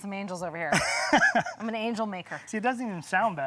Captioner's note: laughs